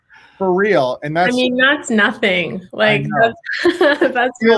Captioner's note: laughs